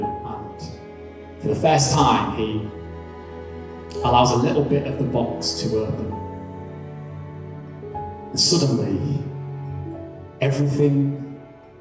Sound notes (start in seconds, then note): none